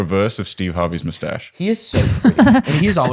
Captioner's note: laughs